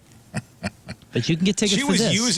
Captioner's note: laughing